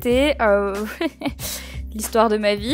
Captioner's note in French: petit rire